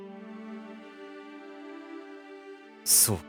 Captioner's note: silence